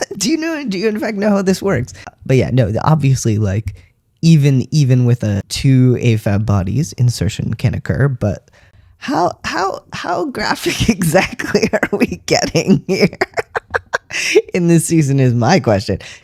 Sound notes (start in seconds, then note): 13.0 laughter